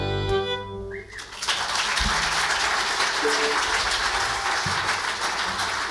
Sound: audience applauds

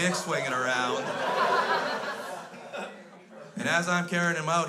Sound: crowd laughs

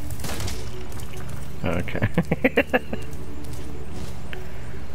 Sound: laughing

